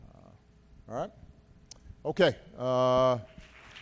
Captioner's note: applause